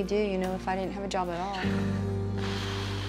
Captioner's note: sighs deeply